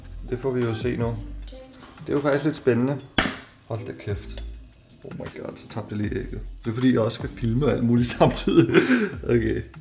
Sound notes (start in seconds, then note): 3.2 crack